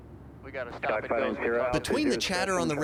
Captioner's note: air traffic communication